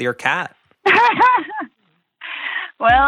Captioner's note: laughs